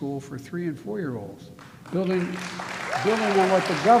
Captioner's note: applause